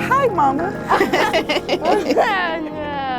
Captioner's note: laughing